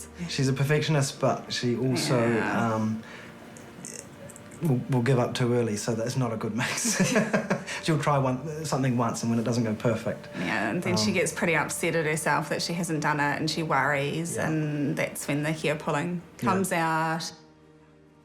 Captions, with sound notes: Yeah, she's a perfectionist, but she also... Yeah. Will give up too early, so that's not a good mix. (LAUGHS) She'll try something once, and when it doesn't go perfect... Yeah, and then she gets pretty upset at herself that she hasn't done it, and she worries, and that's when the hair-pulling comes out.